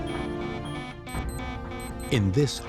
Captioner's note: alarm beeps